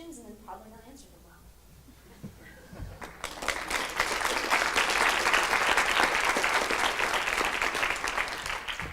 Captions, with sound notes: and probably not answer them well. (clapping)